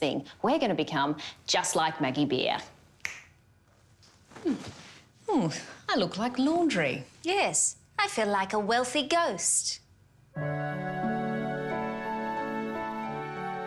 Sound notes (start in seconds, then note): 3.0 snap; 10.3 tranquil music